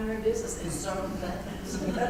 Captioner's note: laugh